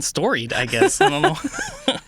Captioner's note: laughing